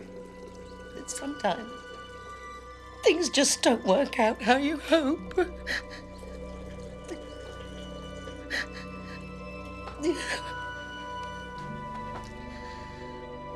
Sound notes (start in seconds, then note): 5.1 sobbing; 7.4 dramatic orchestral music